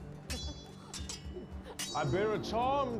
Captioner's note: laughing; swords clanging